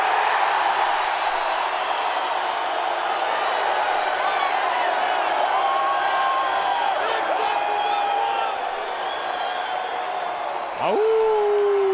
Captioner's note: crowd cheering